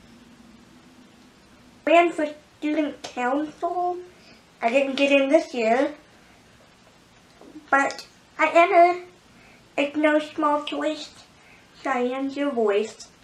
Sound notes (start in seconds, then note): none